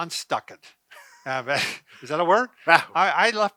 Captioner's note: chuckles